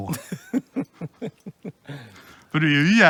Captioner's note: laughs